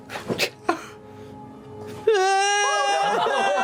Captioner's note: Matt-as-kid starts sobbing